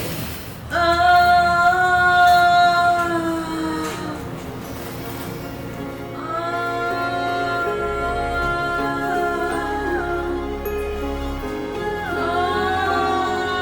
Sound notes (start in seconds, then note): 1.3 moaning; 5.4 soft music; 7.9 moaning; 11.1 soft music